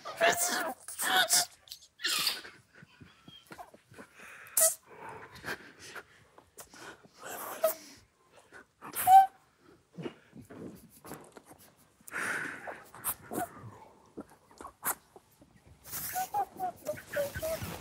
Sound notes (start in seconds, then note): 3.6 breathing heavily; 12.1 group quietly laughing